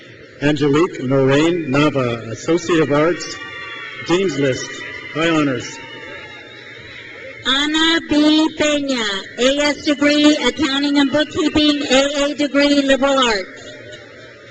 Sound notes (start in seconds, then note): 6.0 crowd cheers